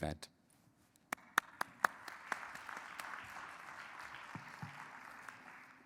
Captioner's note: audience and speakers clap